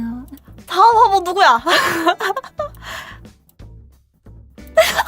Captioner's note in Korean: 웃음